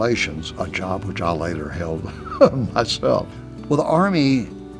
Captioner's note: laughs